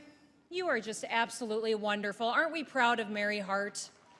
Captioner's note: applause